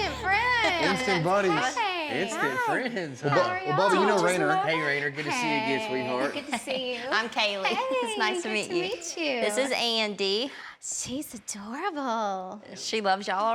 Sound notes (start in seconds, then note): 3.3 everyone greeting